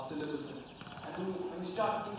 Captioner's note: laughs